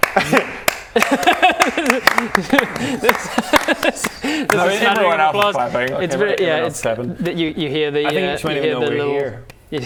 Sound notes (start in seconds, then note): 0.0 clap clap; 0.0 overly polite applause